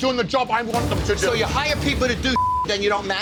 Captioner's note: beep